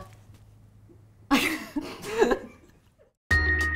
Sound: laughter

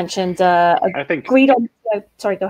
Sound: murmurs

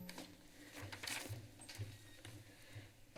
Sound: flipping pages

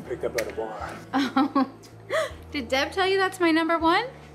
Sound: laughs

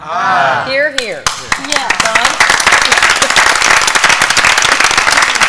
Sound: applause

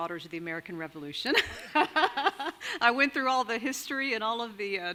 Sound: laughs

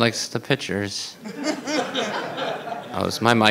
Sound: audience laughing

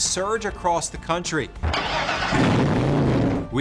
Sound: engine roaring

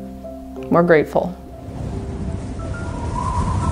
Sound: wind

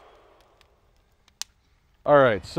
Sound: fire crackling

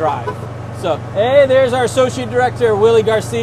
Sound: car honks

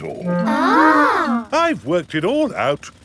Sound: children gasp in awe

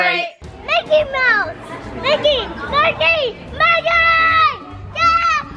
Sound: exclaiming excitedly

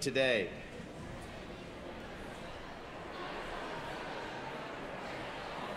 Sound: background chatter

